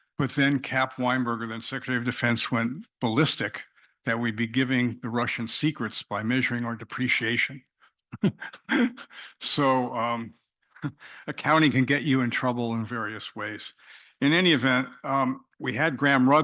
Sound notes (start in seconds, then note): 8.2 cough